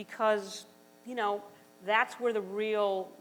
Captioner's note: none